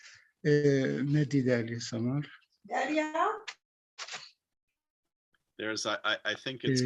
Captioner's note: non-english speech